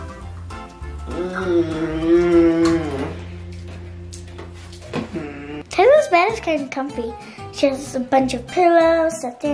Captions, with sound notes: (groaning) - Taylor's bed is kind of comfy. She has a bunch of pillows,